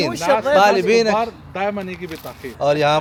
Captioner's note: Arabic